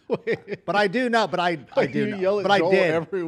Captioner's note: laughter